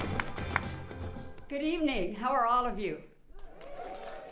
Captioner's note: applauding